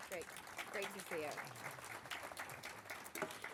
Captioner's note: applause